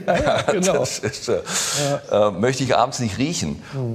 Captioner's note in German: lachend